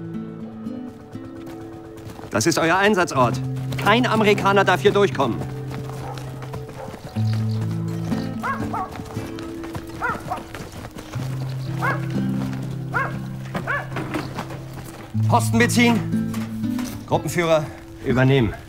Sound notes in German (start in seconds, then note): 0.1 Melancholische Musik; 7.7 Vogelzwitschern, Hundegebell